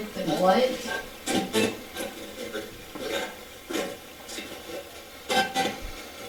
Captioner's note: static playback transmitting